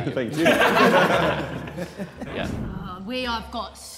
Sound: Sidemen laughing

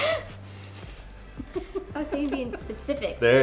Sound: laughing

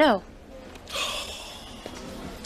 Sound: Frank sighs

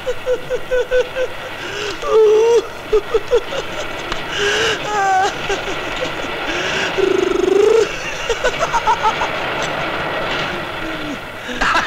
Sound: laughs

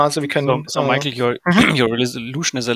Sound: clears throat

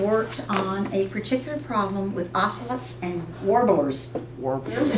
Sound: laughter

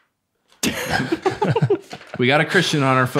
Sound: innocent chuckles

